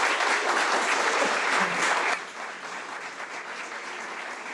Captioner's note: audience applauding